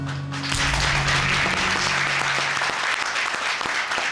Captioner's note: audience applauding